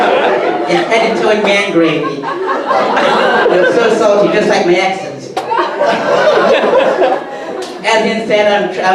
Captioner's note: audience laughter